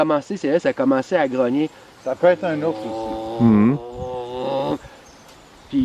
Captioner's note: imitates sound